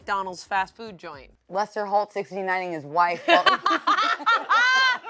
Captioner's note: laughs; everybody laughs